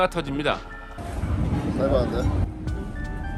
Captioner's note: sound of wind